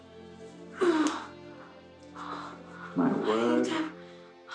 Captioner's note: Cathy moaning